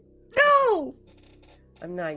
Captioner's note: Hope gasps